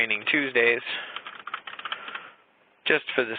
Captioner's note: keyboard clicking